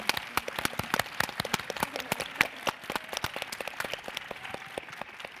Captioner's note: audience applauds